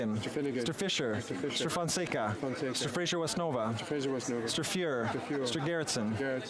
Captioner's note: speaking French